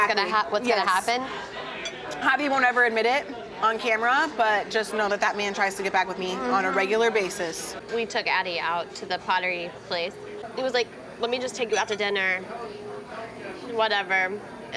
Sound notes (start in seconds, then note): none